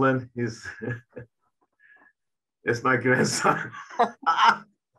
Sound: laughing

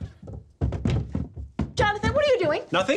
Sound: thudding

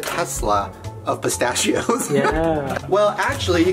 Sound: chuckles

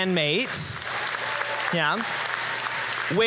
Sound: applause

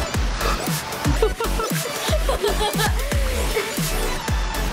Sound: laughs

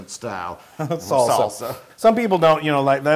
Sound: laugh

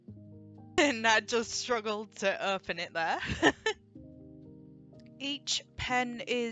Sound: laughs

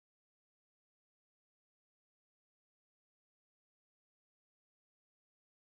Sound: whirring

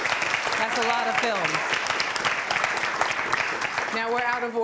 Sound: applause

